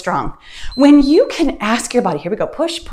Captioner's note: timer beeps